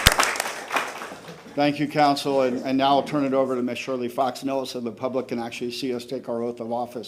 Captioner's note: applause